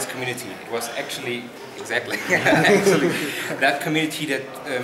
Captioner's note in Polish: śmiech